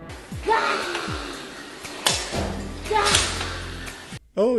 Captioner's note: cute little roars